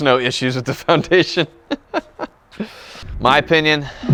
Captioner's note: laughs